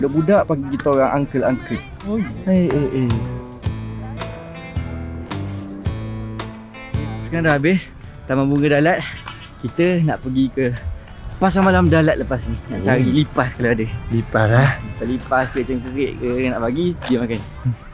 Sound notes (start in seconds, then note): 2.4 grouses